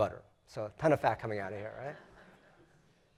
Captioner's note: laugh